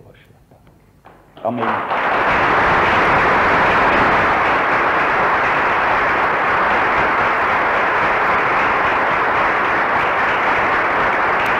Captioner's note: prolonged applause